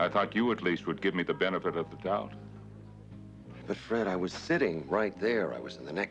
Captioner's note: laughs